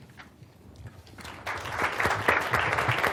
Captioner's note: applause